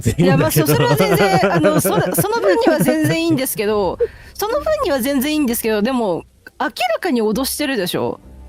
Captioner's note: laughter